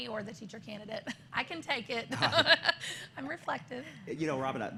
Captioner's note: laughter